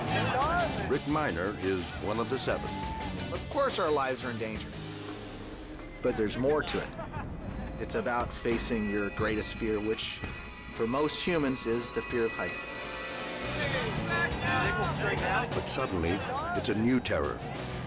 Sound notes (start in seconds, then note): 13.6 all chatting